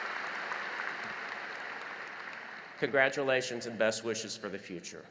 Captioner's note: applause